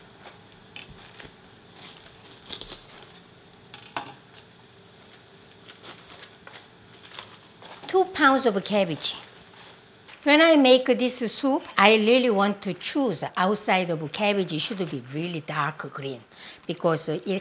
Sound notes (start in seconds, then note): 0.8 cabbage crunches; 6.9 leaves rustle